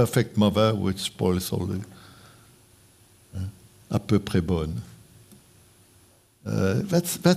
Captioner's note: speaking french